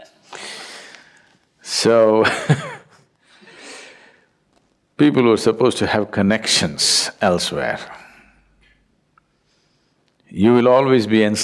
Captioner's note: laughter; laughs